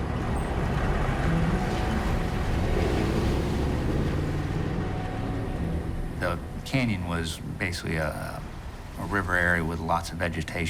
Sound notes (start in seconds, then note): none